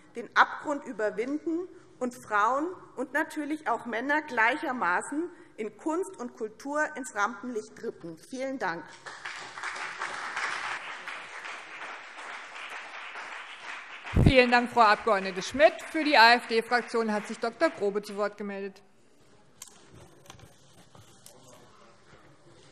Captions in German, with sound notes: den Abgrund überwinden und Frauen und Männer gleichermaßen in Kunst und Kultur ins Rampenlicht rücken. - Vielen Dank. [Beifall BÜNDNIS 90/DIE GRÜNEN und CDU] Vielen Dank, Frau Abg. Schmidt. - Für die AfD-Fraktion hat sich Dr. Grobe zu Wort gemeldet.